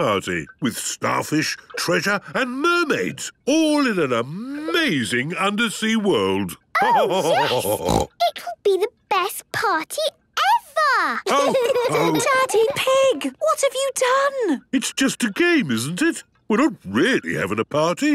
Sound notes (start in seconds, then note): 6.4 laughter and snorting; 11.2 laughter